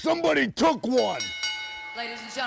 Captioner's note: bell rings